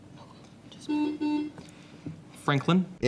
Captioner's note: buzzing